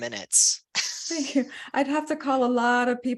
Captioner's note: laughter